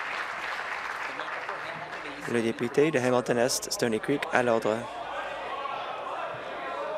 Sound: applause

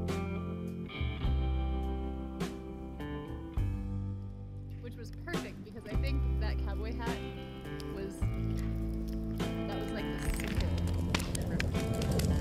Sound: fire audio

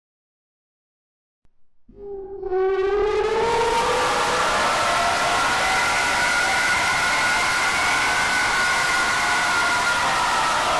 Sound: sound of distorted scream

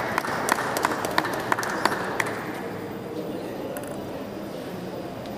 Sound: applause

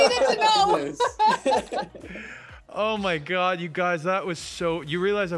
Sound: laughs

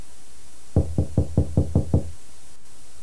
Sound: door knock

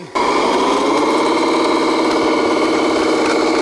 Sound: truck whirring

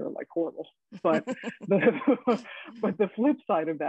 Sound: both laughing

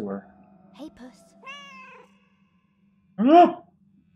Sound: cat meows

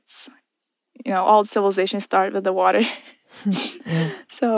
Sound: laughs

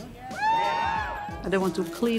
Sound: crowd cheers

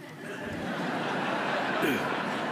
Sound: laughter

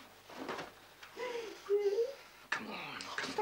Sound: Sandra cries

